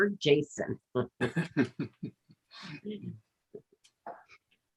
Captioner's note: group laughs